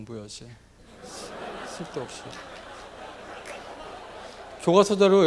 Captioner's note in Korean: 청중들 웃음 ㅎㅎㅎ